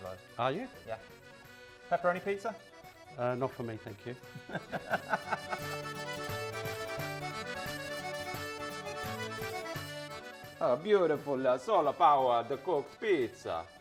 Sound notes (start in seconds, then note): 4.2 both laughing; 6.7 upbeat music